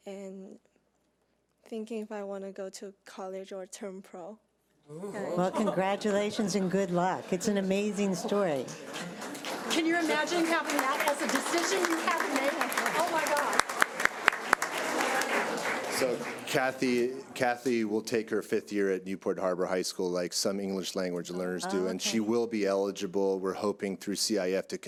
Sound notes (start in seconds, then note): 9.3 audience applauding; 11.9 audience applauding